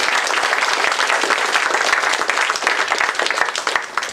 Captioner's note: applause